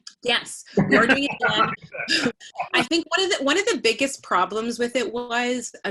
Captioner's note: laughter